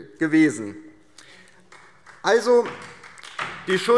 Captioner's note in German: Beifall DIE LINKE